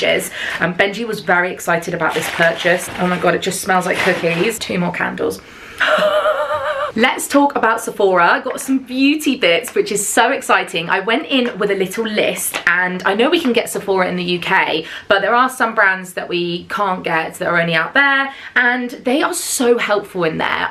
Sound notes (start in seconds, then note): 5.8 chuckles